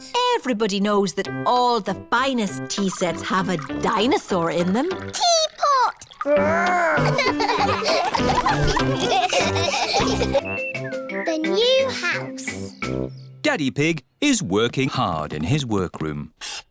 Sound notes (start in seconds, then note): 6.6 all laughing